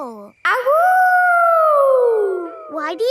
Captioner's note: howling